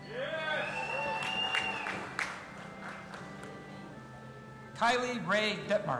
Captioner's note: audience applauding and cheering